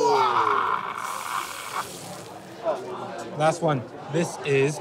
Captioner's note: steam hissing